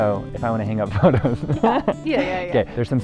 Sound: laughs

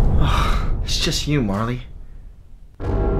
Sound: sigh

